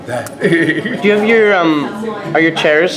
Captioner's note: laughs